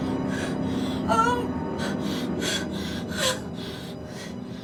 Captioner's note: breathing heavily